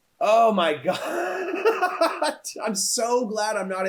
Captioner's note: laughs